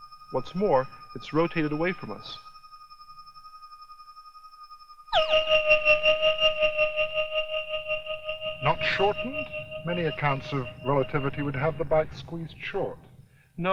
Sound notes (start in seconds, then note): 5.6 resonating